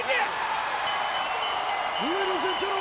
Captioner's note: bell ringing